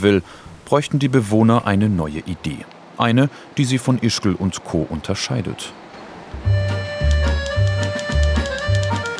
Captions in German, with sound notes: bräuchten die Bewohner eine neue Idee. Eine, die sie von Ischgl und Co. unterscheidet. (Schreibmaschinengeräusche)